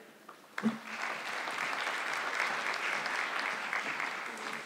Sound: audience clapping

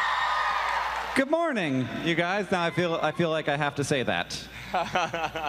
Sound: applause

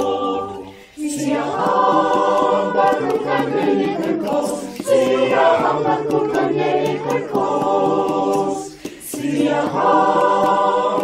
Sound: zulu

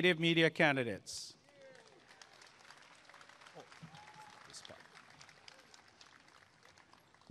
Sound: applause and cheering

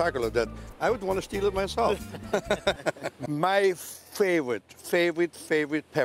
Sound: laughter

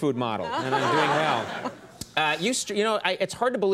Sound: audience laughing

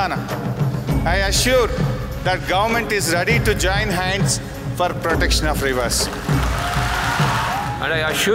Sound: cheers

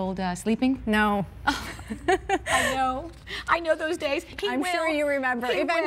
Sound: laughter

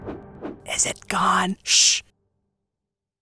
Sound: whisper

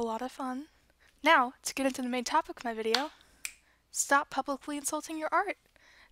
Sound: clap

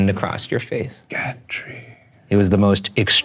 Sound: whispering

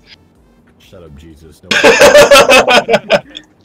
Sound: cut off by laughter

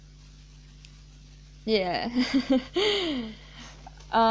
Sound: nervous laughs

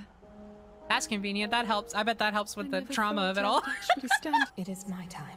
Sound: laughter

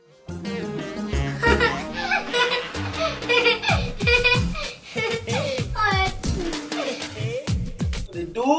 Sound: laughing

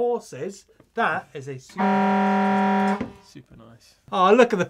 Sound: horn blowing

